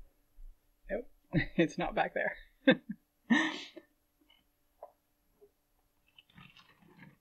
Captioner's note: laughing; chair creaking, movement